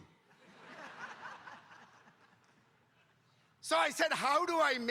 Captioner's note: audience laughing